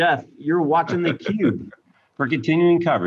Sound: chuckling

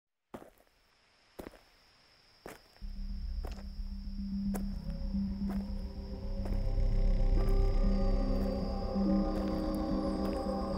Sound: footsteps with ominous music

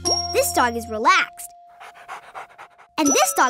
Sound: panting

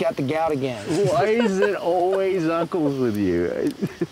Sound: everyone laughs

